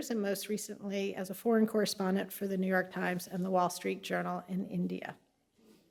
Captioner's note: none